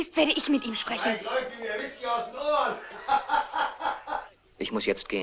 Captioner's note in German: Männer lachen